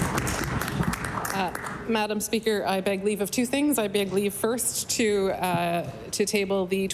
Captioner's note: applause